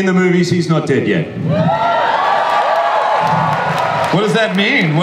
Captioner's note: audience cheers